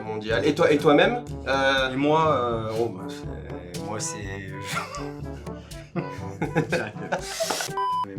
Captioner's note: cracks up